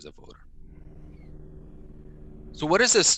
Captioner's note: an airplane hums